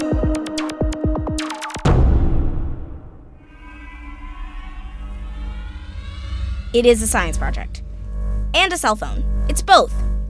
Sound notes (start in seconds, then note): 3.0 buzzing